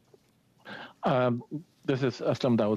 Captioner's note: speaking French